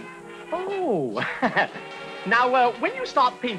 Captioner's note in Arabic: يضحك